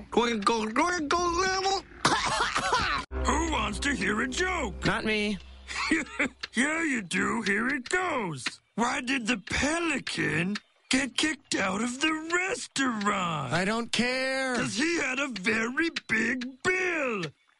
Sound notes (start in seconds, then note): 2.0 coughs